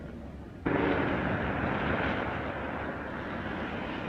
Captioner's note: engine rumbling